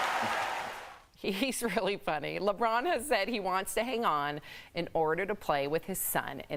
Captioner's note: applause